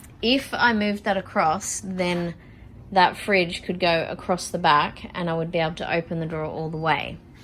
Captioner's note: none